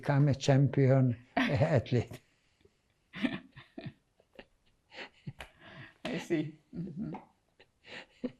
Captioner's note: laughing